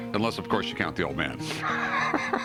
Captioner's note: laughs